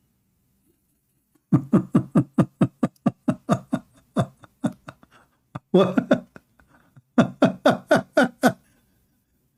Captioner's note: Ketawa